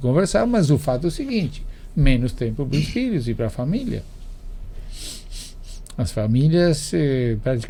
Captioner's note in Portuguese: limpando a garganta